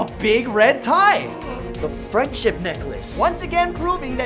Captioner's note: another le gasp!